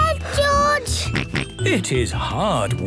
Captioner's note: panting; snorts